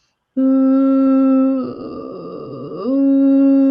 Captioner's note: vocalizes